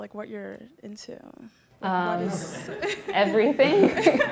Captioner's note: laughing